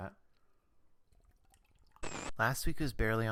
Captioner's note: static